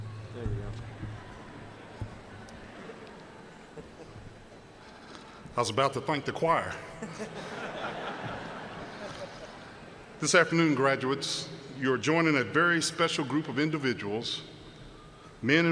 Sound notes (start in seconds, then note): 6.8 laughter